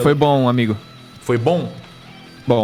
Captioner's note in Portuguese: none